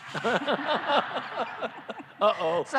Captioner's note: laughter